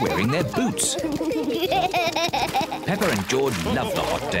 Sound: both giggle

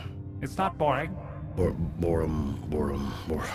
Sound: sighs

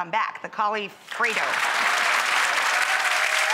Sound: clapping

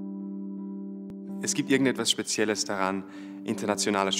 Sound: non-english speech

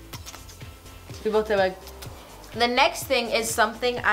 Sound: smooching

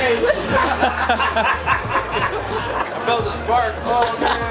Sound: laughter

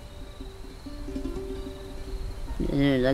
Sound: speaking spanish

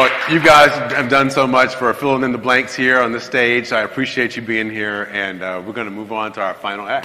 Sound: applause; cheers

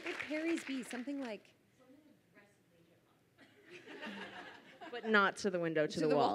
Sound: speaking away from mic

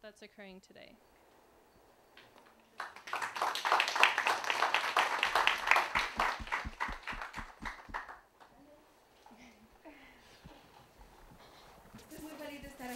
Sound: applause

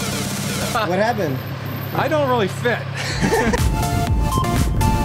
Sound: laugh

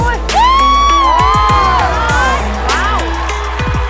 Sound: applause

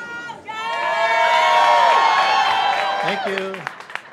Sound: audience cheering and clapping

